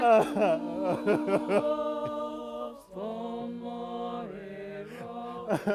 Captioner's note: chanting